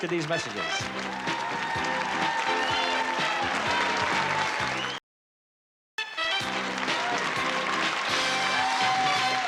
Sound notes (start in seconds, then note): 1.8 applause